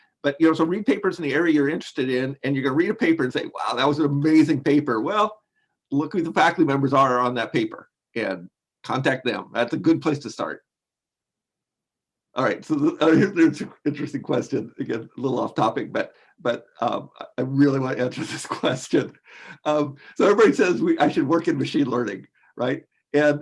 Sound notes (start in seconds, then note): 13.0 laughs; 19.4 laughs